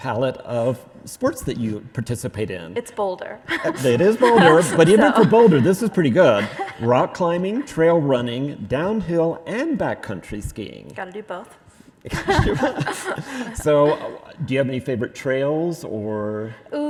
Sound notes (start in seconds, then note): 12.1 both laughing